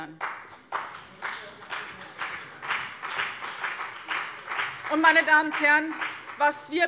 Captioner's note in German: Beifall BÜNDNIS 90/DIE GRÜNEN und vereinzelt CDU